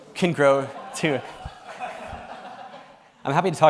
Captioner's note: laughter